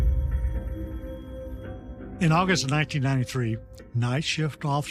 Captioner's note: phone ringing